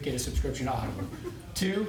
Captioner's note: laughter